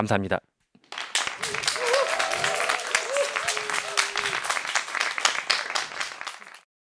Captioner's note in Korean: 박수와 환호